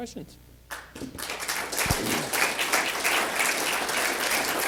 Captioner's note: applause